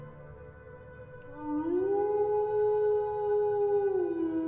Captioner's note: wolf howling